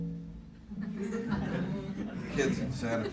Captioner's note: laughter